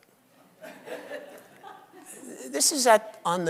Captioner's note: audience laughs